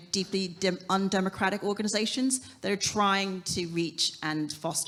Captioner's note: none